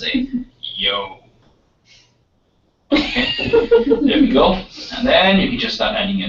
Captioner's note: laugh